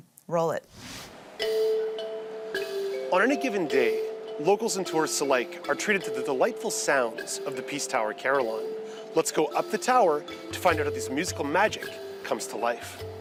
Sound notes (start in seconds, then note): 5.0 bells